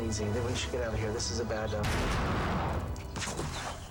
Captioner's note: gun shot